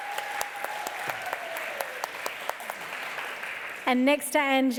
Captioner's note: applause